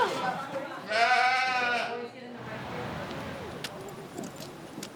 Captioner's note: sheep bleating